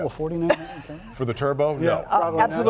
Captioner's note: laughter